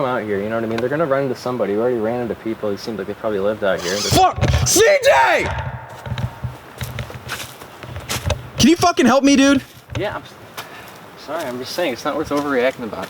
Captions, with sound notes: They're gonna run into somebody. We already ran into people who live here. [screaming] Fuck, CJ! Can you fucking help me, dude? Yeah, sorry. I'm just saying it's not worth overreacting about.